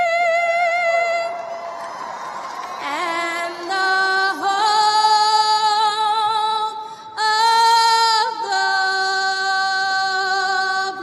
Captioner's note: cheers and applause